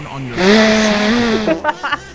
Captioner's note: spitting; laughing